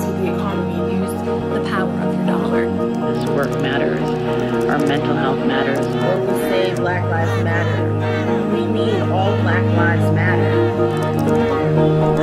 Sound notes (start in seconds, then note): 0.1 voice of a woman; 10.6 a crowd chants “Black lives matter”